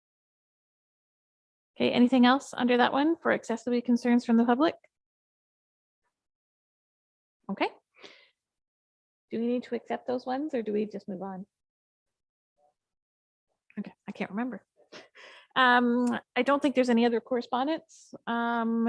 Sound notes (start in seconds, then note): 15.3 chuckles